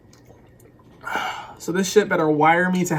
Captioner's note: exhales